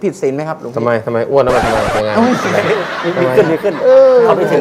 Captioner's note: laughter